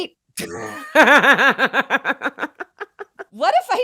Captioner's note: laughing